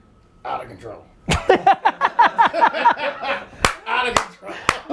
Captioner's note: laughing